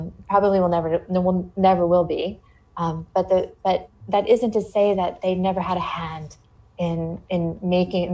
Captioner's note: none